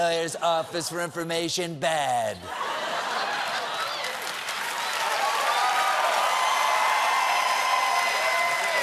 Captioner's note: cheers and applause